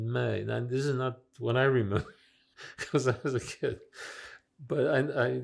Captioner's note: laughing